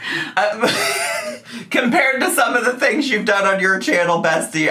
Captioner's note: snickers